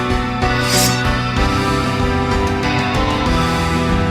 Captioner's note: blade slicing